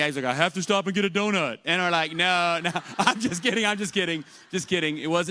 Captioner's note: laughter